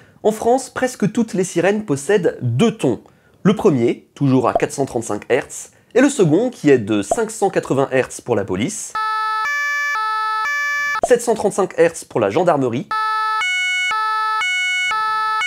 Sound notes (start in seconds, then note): 8.9 police Siren; 12.9 gendarmerie Siren